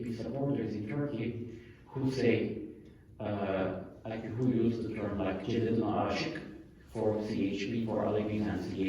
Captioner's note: non-english